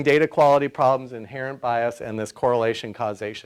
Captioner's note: none